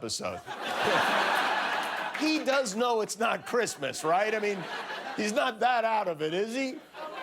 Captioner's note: laughter